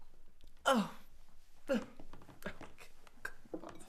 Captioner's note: scoffing